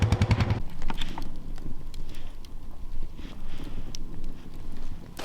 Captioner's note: flames crackling